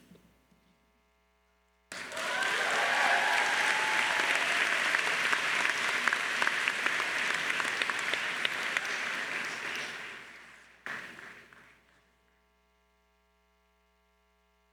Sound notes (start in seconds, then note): 1.9 crowd cheering and applauding